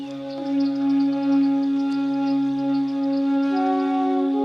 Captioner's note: birds chirping; dramatic music